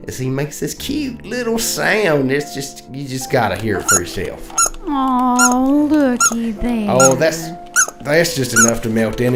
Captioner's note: squeek sound